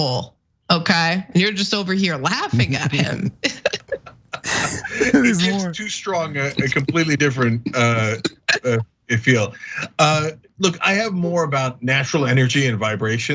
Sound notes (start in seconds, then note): 4.4 laugh